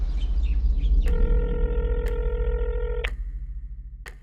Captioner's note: line trilling